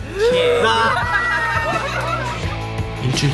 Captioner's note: loud laughter